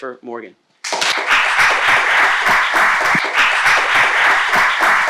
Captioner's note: audience applauding